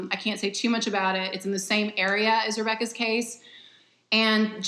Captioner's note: none